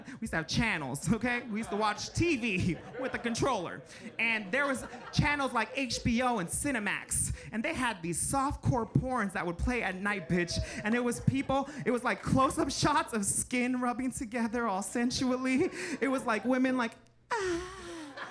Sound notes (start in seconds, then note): 1.2 audience chuckling